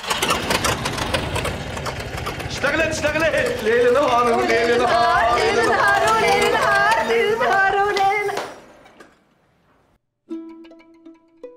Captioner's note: machine stops; machine whirring